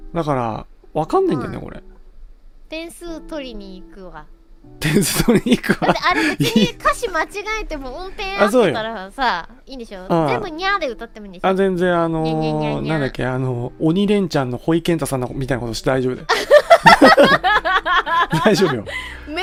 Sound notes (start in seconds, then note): 16.3 both laughs